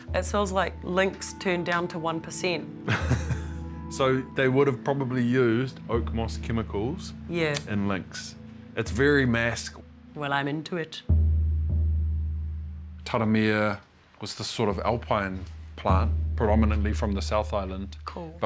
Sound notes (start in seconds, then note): 2.8 chuckles